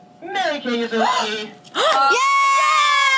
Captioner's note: gasps